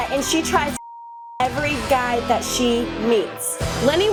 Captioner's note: beep